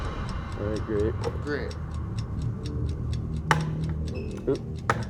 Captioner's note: clock ticking